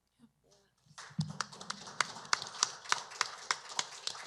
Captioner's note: applause